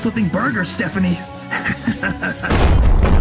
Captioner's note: laughs